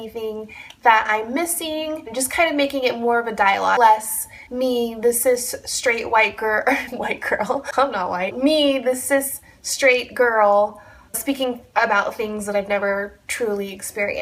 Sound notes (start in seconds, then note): 6.7 giggles